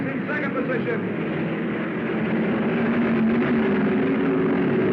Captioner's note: cars revving